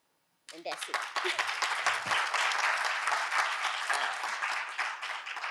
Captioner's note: audience applauding